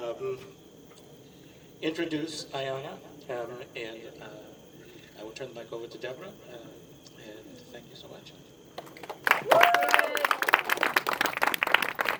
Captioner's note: applause